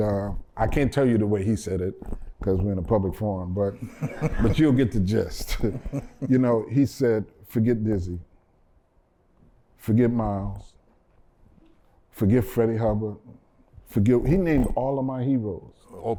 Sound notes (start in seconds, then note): 5.4 laughter